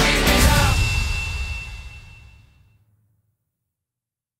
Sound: bell rings

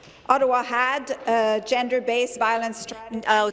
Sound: speaking in French

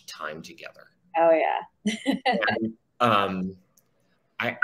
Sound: laughs

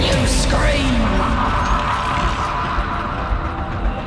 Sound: mechanical whirring slightly resembling someone laughing

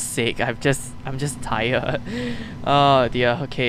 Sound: more nervous laughs

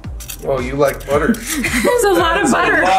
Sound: women giggling

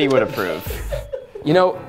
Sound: laughs

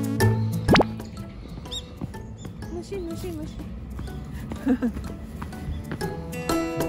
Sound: laugh

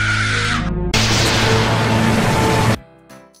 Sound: epic laser beam sound

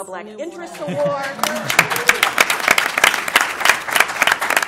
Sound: applause

